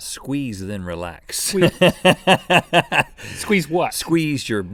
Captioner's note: laughing